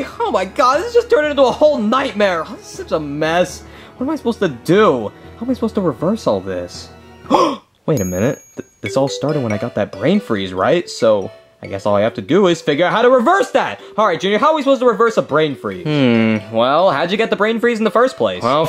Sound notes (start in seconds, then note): 7.3 gasping; 7.9 bell dings